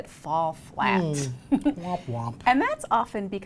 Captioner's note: chuckles